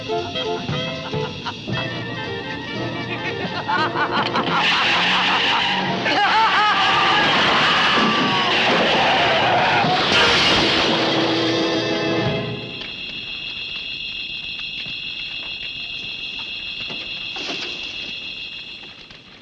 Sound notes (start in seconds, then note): 0.2 laughing; 5.3 hysterical, loud laughter; 7.9 brakes squealing; 9.8 loud crash!